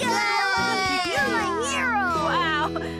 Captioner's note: All Cheering Lofty